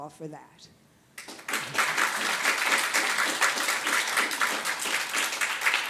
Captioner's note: audience applauds